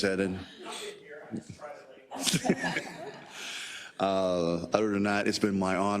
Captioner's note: laugh